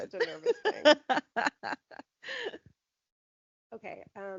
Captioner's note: laughing